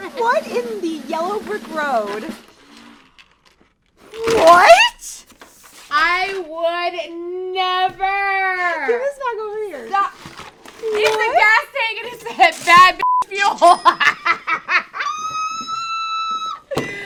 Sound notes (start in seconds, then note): 13.0 beeping noise; 13.6 both laughing